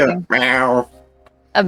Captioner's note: cat meowing